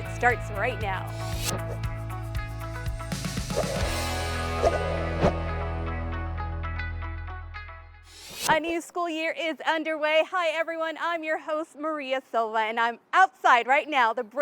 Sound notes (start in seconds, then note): 3.4 swiping sound